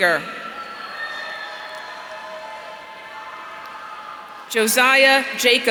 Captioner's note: audience cheering